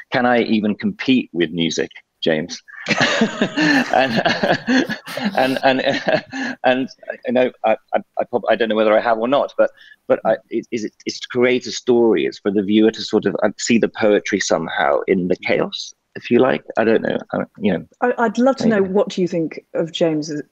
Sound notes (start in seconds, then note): 2.6 he laughs